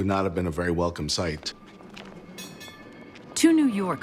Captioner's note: trolley bell ringing